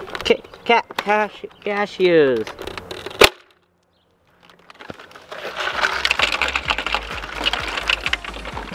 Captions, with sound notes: Ca- ca- ca- cashews. (thump)